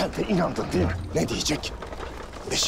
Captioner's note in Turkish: Kağnı Sesleri